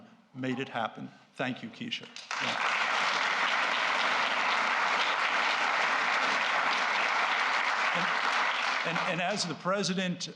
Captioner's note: applause